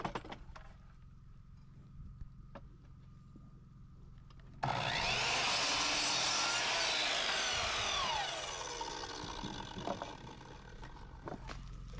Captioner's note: drill whirring